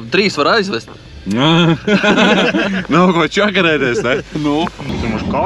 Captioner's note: laughts